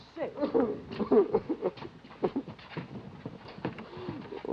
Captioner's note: Danny sobbing